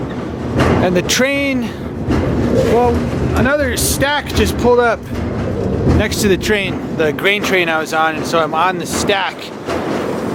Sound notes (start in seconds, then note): 4.0 train